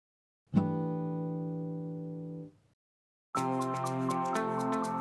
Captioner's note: chime sounds; upbeat music